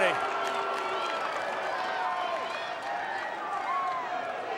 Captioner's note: crowd cheering